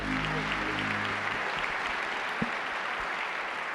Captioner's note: clapping